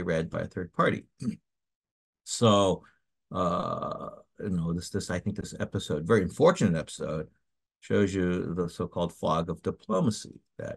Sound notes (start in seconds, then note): 1.2 cough